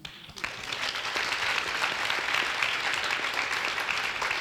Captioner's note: audience applauds